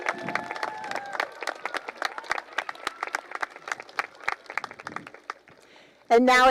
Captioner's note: cheering and applause